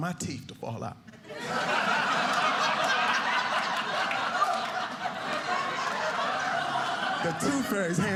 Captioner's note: audience laughing